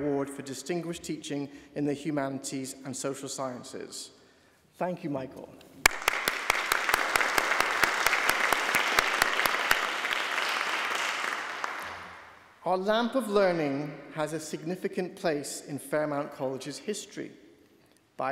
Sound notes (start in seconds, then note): 5.8 applauding